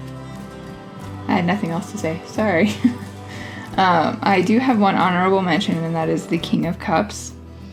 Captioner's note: laugh